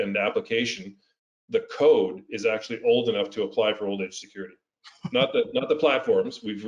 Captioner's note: laugh